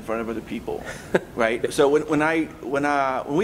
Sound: laughs

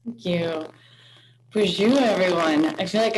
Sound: speaks in foreign language

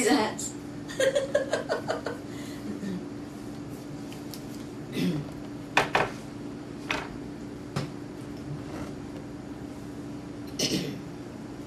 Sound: laughs

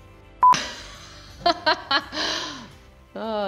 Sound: laughing

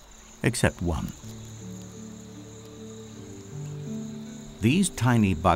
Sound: birds chirping; soft background music

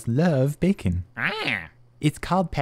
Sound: squawking

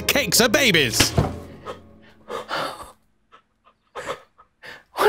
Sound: both crying

